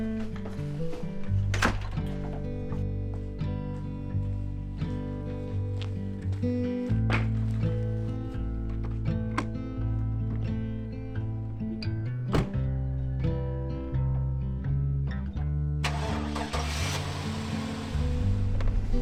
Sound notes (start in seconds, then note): 1.3 door thuds; 2.7 gentle country music; 12.2 door thuds; 15.8 engine cranking